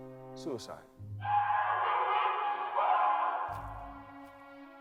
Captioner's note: screaming